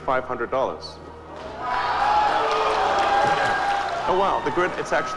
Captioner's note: audience cheering